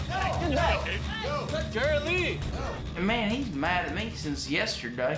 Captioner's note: shouting